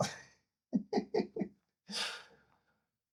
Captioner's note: laughing